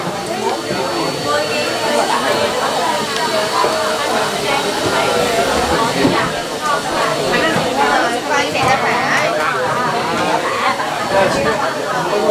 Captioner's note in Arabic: الثرثرة الخلفية